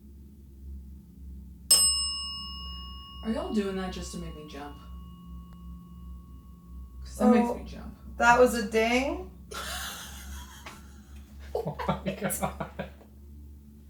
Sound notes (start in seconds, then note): 1.7 bell dings; 9.5 investigators laugh